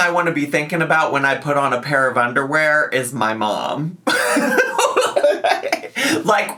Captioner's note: laughs